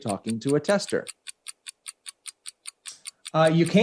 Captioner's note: clock ticking resumes